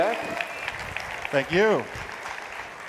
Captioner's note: people applauding